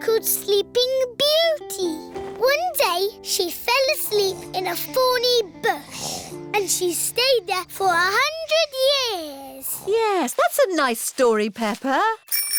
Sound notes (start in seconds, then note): 9.4 snoring